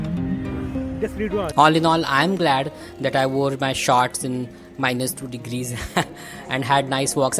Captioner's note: snickers